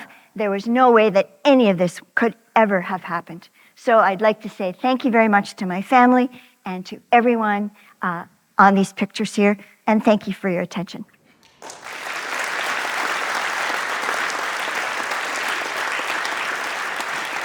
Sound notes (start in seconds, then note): 15.4 applause